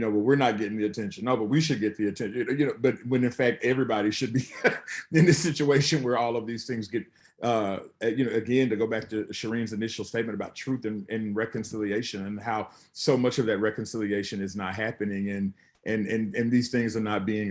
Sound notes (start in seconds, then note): 4.3 chuckles